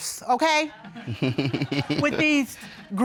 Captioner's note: laughs